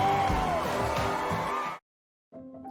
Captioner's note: crowd continues cheering